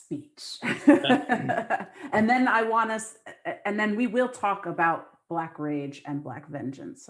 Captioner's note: laughter